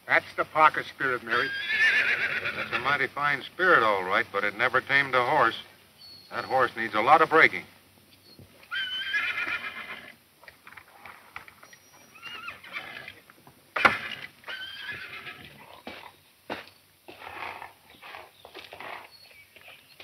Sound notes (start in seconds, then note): 8.6 horse neighs